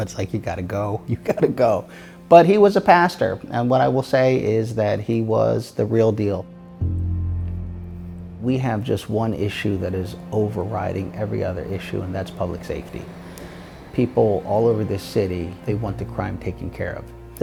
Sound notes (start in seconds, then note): 6.8 somber music continues; 13.4 traffic humming softly